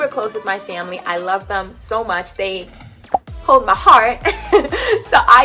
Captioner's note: laughs